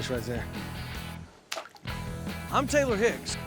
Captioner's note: splash